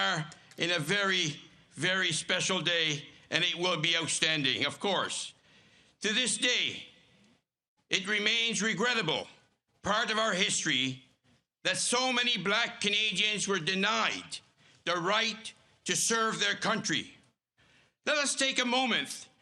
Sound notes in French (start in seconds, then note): 1.6 Voix en Anglais